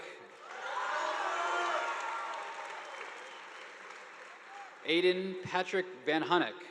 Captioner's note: students cheering; audience applauding